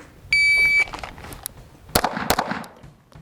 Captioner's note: signal beeps; gun popping